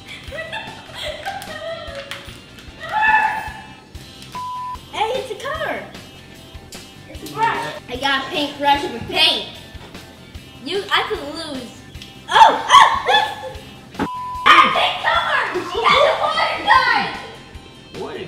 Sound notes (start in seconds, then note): 4.3 beep; 14.0 beep